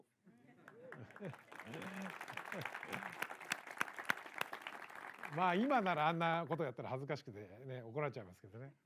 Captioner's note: applause